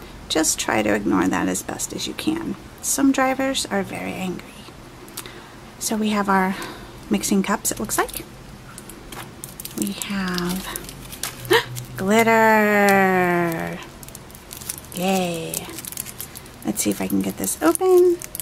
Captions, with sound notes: just try to ignore that as best as you can some drivers are very angry so we have our mixing cups it looks like we have (gasp) glitter yay let's see if i can get this open